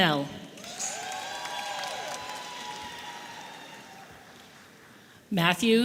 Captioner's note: audience applauding and cheering